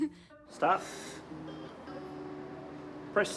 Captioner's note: laughs; exhales sharply